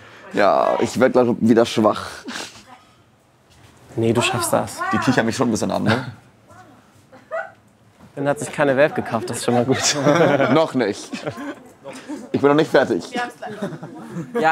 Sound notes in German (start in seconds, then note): 8.8 Lachen